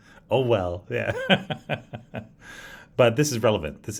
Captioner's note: laughs